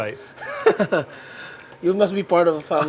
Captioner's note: laughing